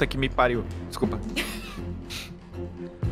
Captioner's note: laughter